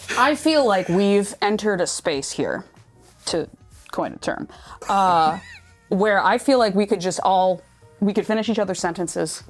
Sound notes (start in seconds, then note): 4.8 wheezing